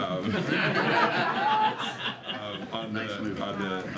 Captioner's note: laughter